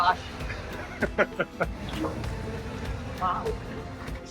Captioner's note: laughing